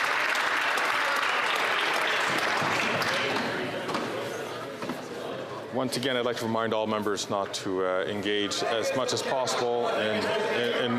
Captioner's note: some Applause